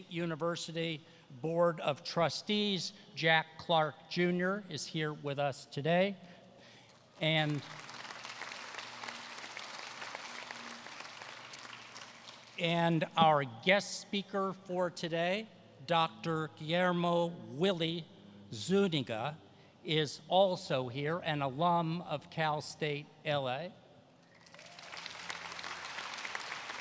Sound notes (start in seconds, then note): 7.1 applause